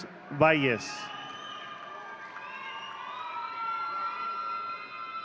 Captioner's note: audience cheering